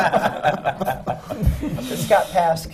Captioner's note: laughter